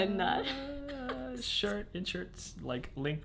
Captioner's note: laughs